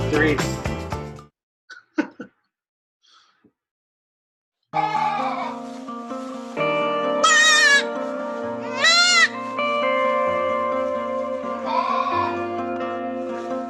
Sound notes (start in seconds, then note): 1.8 laughs; 4.7 uplifting music; 8.7 goats bleat